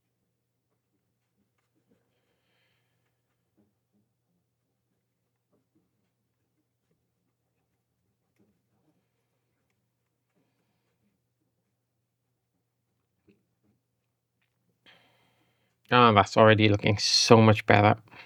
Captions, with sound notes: [silence] Oh, that's already looking so much better.